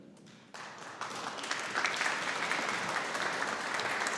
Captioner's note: audience applauding